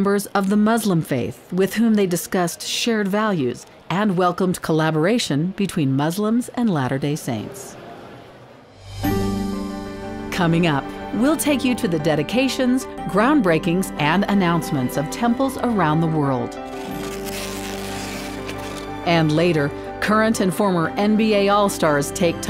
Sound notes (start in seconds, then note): 16.6 tape screeching